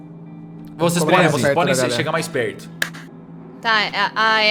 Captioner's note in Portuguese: palmas